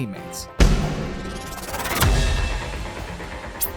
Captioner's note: whirring sound